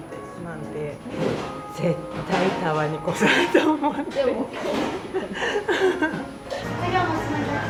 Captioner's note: laughs